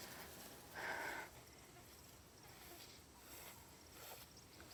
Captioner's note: flies buzzing